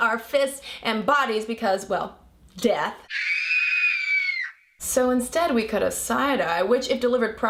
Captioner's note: screaming sound